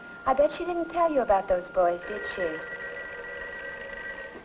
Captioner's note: telephone rings